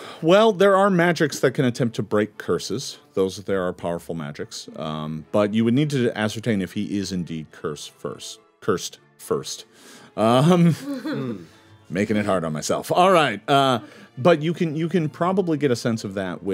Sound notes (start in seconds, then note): 10.6 group giggling